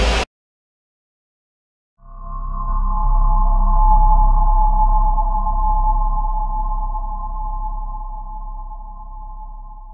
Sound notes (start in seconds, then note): 0.0 sudden silence; 2.0 ethereal / ghostly short drone sound